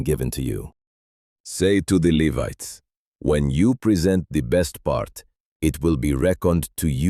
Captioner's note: commanding